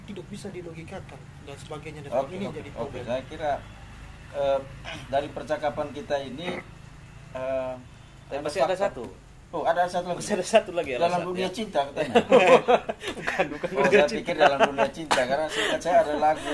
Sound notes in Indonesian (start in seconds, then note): 15.6 tertawa